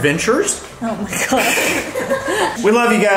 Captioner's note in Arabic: يضحك